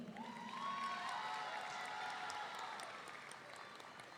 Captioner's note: audience cheering